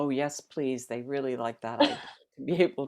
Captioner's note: laughter